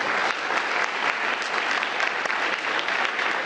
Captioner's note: applause